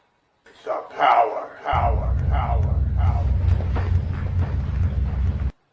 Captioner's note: thunder noises and echoes